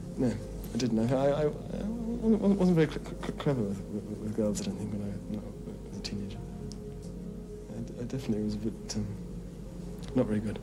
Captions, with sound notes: I didn't, (stammers) I wasn't very clever with girls, I don't think, no, teenager. I definitely was a bit not very good,